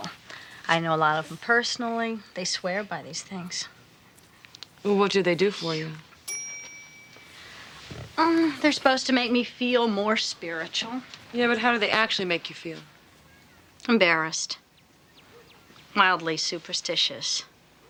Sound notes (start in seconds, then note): 6.2 bell rings